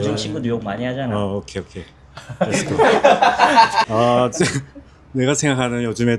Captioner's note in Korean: 웃음